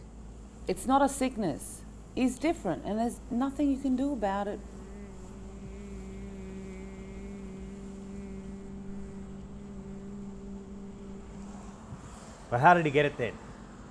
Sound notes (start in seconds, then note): 7.0 making humming noises